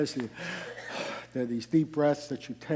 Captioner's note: sighing